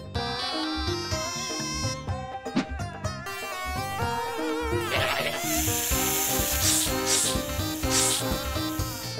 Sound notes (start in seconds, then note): 4.8 snake hisses